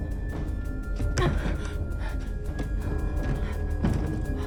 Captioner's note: Bryn huffing